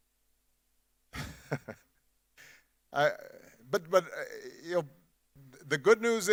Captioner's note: Barack Obama chuckles